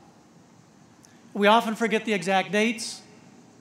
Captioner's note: none